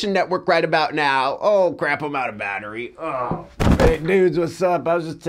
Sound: groans

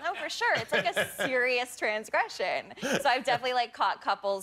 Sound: laughter

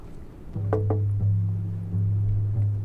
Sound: knocking

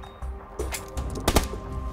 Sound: shots

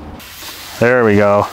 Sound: meat sizzling

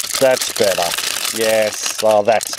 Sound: tinkling

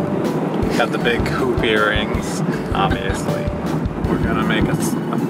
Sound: laughs in the background

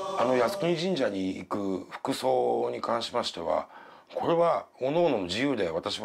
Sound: speaking in foreign language

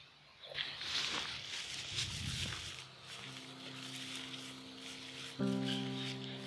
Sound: sounds of walking through weeds

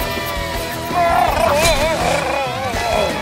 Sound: bleating

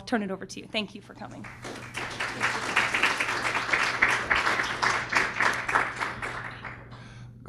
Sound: applause

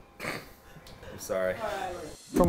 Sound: snorting

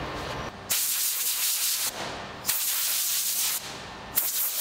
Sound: air hissing

